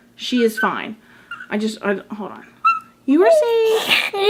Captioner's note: whimpers